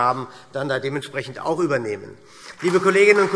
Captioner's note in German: Beifall SPD